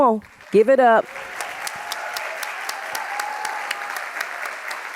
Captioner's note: audience applauding